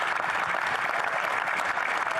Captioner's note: some Applause